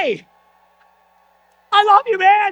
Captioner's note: audience applause